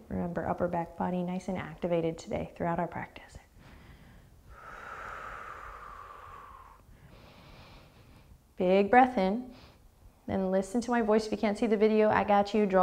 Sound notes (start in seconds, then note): 3.5 deep breathing